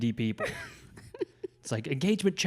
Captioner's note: laughs